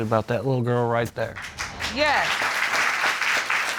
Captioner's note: applause